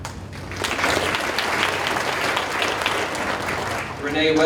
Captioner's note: audience applauding